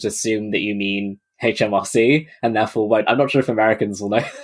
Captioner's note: laughing